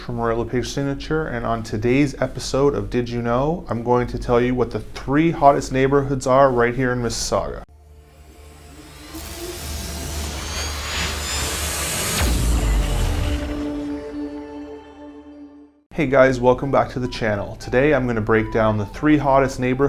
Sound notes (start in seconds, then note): 7.7 whooshing